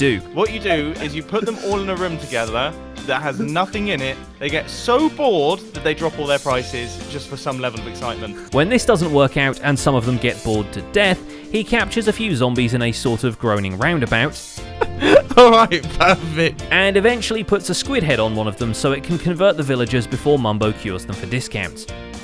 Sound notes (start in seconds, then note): 14.7 laughing